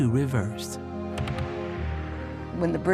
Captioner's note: bombs explode